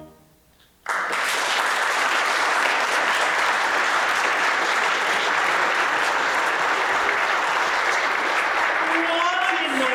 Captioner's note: applause